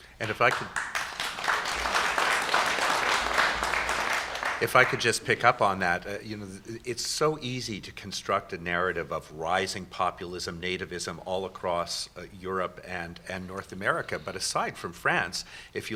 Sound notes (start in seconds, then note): 0.2 applause